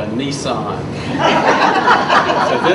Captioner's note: audience laughs